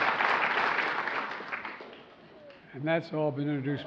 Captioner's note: applause